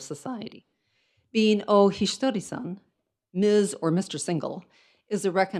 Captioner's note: speaks in foreign language